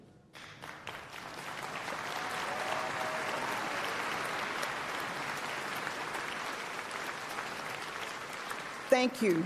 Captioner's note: applause